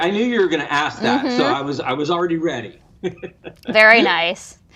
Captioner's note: laughs